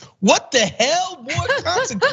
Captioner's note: laugh